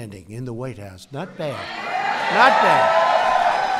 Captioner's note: applause